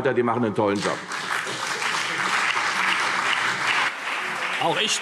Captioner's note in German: Beifall CDU und BÜNDNIS 90/DIE GRÜNEN